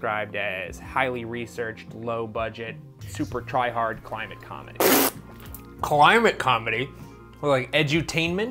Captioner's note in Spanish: pfft